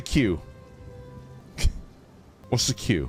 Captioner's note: chuckles